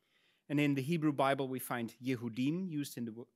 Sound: speaks in Hebrew

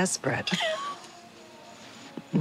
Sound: chuckles

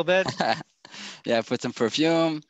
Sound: chuckles

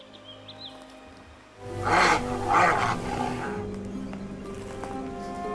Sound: bears growling

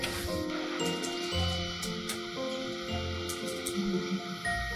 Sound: keyboard clicking

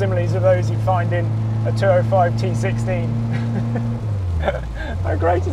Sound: chuckles

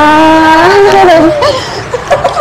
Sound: laughs

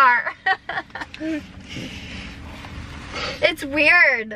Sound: laughing

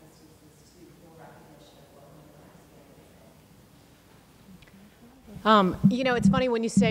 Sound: speaks quietly without mic

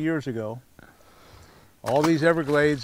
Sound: fish splashing

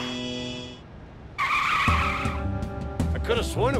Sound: tires screech

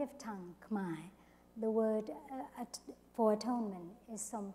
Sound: foreign word spoken

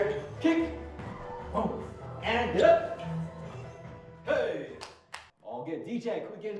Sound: clapping

